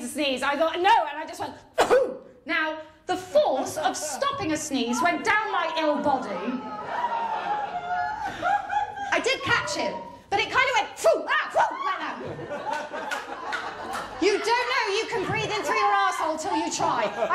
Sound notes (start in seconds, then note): 1.7 sneezes; 7.0 groans